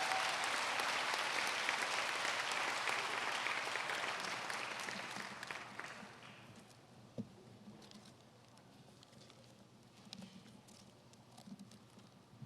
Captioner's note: applause